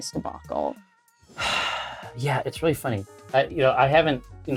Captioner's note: sighs